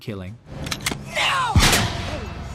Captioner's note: gunshot